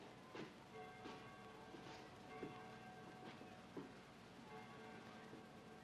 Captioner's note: bell rings in distance